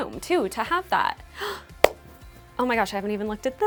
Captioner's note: gasps